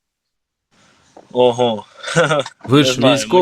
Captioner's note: laughter